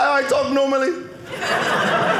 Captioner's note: audience laughing